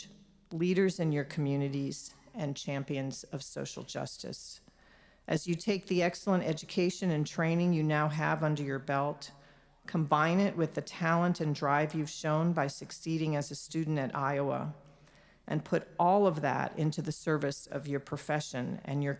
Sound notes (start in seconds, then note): none